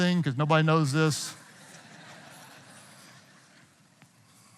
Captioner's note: audience laughing